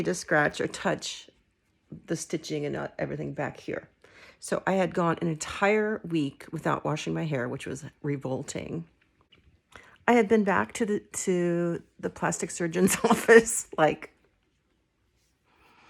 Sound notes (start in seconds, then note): 12.8 laughing